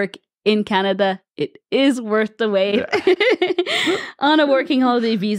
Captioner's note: laughs